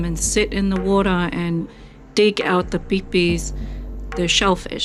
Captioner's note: speaks foreign language